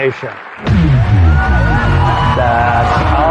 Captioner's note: dramatic sound effects